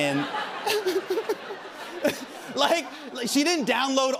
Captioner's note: laughter